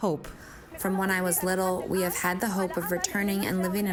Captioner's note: through translator